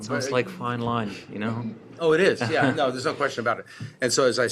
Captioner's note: laughter